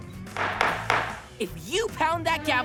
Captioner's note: pounding